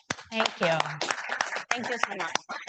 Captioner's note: attendees clapping